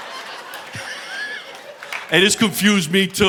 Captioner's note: audience laughing; chuckles